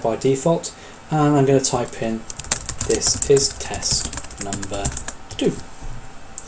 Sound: keyboard strokes

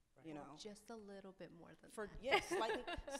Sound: laughs

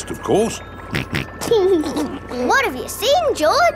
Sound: snorts and laughs

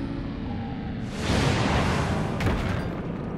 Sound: ship touches down

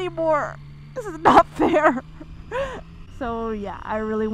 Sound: chuckles

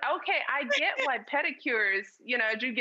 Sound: laughing

